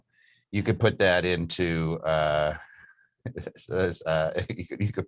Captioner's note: laughs